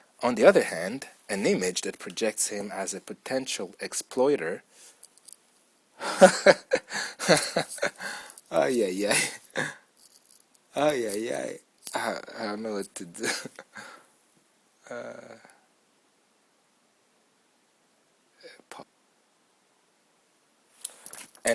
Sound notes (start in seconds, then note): 8.5 reader laughs and hesitates